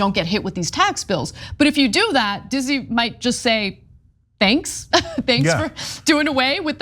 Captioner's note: laugh